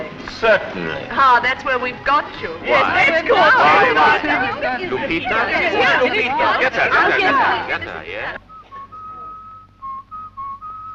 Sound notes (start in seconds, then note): 4.5 all chatter excitedly; 8.4 whistles